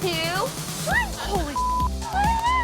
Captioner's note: beep; excited screaming